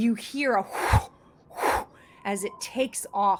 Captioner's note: wings flapping